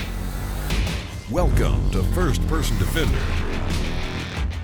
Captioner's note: voiceover